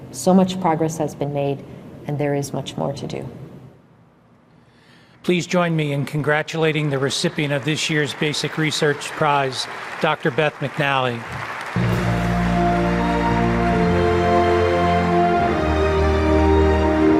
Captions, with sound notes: So much progress has been made and there is much more to do. - Please join me in congratulating the recipient of this year's Basic Research Prize, Doctor Beth McNally. (audience applauding) (dramatic music)